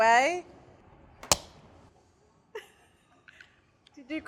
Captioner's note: crack